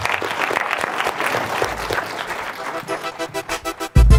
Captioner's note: audience applauds; upbeat electronic music